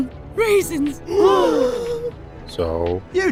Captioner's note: gasp